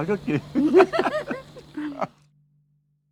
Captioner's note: both laughing